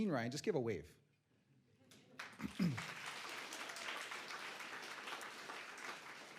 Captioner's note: applause